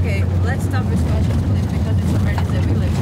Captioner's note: rumbling